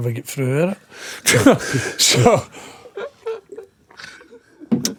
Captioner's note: laughing